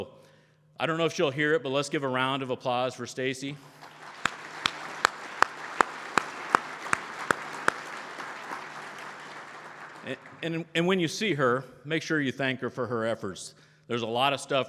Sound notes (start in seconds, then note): 8.7 crowd Applause